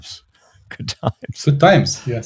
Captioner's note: laughs